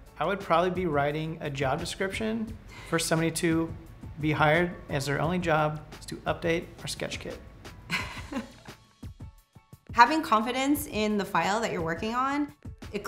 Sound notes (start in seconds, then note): 7.9 laughing